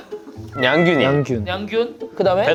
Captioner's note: meow